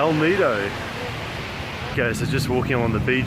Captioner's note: ocean waves